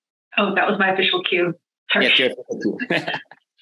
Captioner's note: chuckles